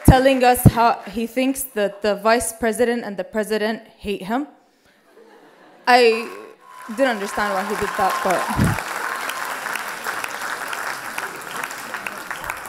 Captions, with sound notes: telling us that he thinks that the Vice President and the President hate him. I didn't understand why he did that. (applause and cheer)